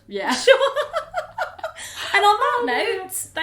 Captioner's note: both laugh